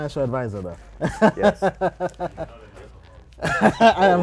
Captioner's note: laughter